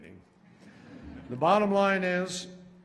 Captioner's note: laughter